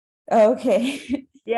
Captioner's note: laughs